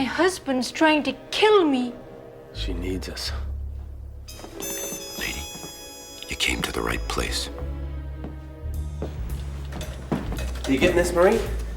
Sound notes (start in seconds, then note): none